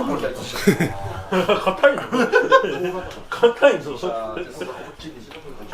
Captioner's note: laughs